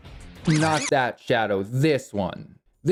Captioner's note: record scratch